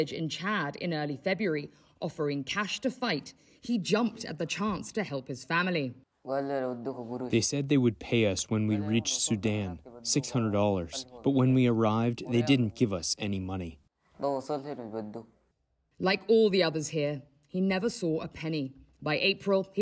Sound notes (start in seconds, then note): 7.2 through translator